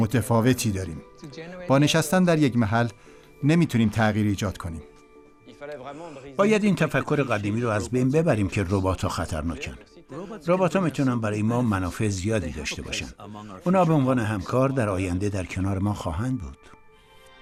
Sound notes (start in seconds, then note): 8.0 foreign language